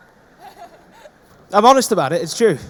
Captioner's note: audience laughing